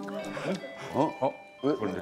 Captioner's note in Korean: 딩동